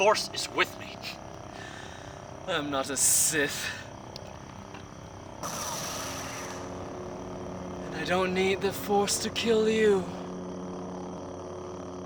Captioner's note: scoffs; Lightsaber ignites